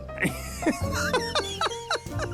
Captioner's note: laughter